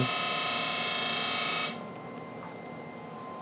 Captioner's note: laser buzzes